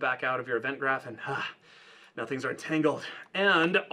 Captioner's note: sighs